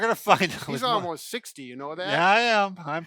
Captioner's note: laughs and mumbles